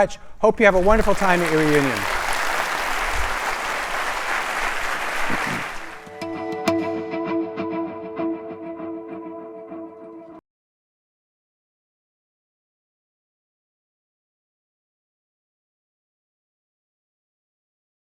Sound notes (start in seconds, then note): 2.2 applause; 5.4 upbeat music; 12.4 silent